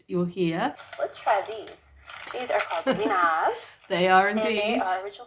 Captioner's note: laughing